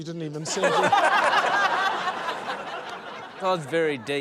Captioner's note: laughter